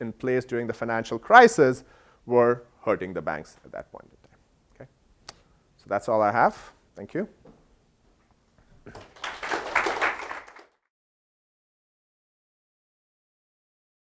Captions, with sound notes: rules in place during the financial crisis were hurting the banks at that point. Okay, so that's all I have. Thank you. >> [APPLAUSE]